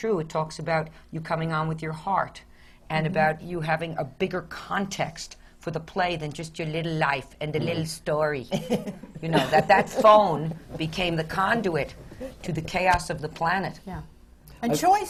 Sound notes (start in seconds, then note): 8.5 laughs